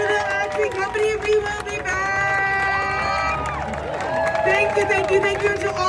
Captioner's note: crowd cheering